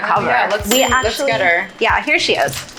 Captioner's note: bell dings